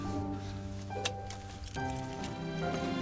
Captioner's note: unclips seatbelt